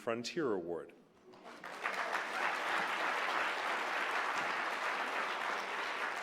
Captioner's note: applause